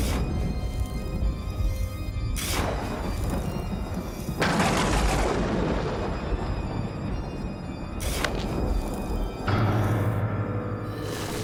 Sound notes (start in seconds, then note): 4.6 lightning crashes